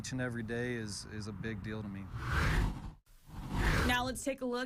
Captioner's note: air whooshes